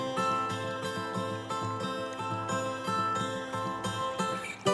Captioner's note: current trickles gently